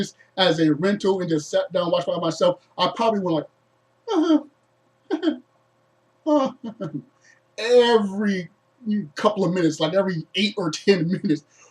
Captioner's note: quiet chuckles